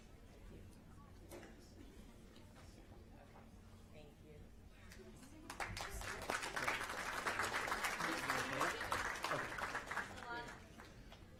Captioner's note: applause